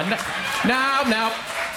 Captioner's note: crowd applauds